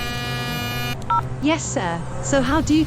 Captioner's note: phone Buzz Noise; dial Noise